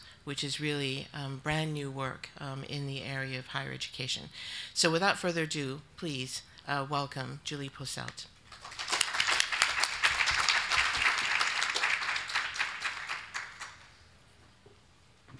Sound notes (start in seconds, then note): 8.5 audience applauding